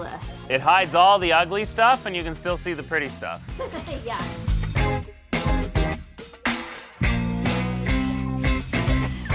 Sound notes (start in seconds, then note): 3.3 laughs; 5.0 bright upbeat music